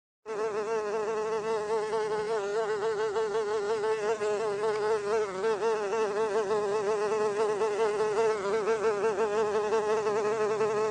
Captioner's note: mosquito buzzing sound